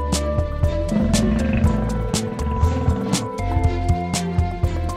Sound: growling sound

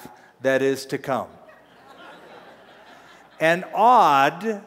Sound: laughter

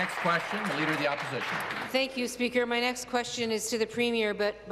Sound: applause

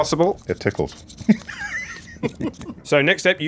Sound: laughs

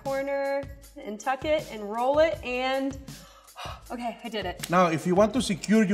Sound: gasping

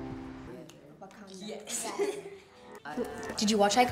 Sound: students talking

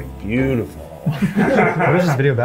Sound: laughing

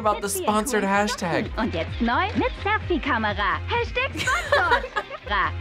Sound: speaking German

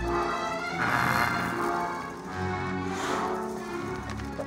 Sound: growls

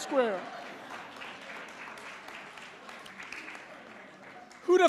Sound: applause

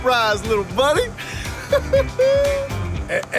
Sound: laughing

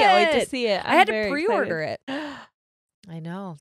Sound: gasps

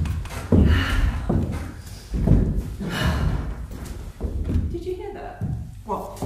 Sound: she sighs

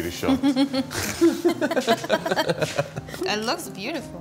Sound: laughing

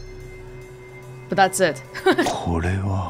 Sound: chuckles

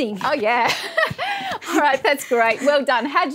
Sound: laughs

